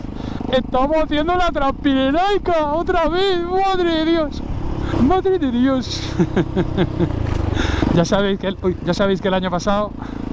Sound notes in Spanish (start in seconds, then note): 5.9 risas